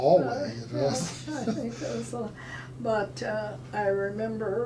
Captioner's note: laughing